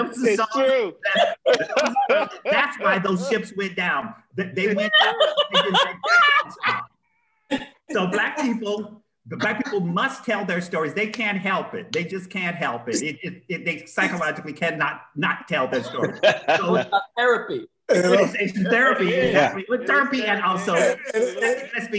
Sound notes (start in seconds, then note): 4.7 laughter